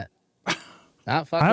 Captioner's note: laughs